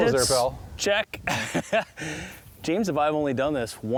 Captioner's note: laughing